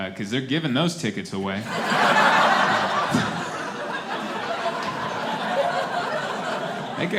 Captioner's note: laughter